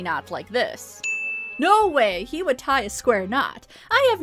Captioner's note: ding!